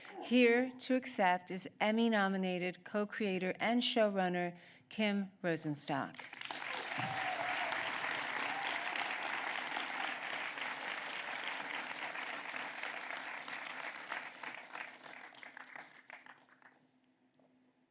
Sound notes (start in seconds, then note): 6.4 applause